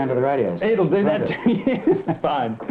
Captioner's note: laughter